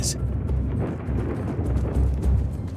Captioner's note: thunder rumbling